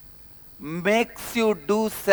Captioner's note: hindi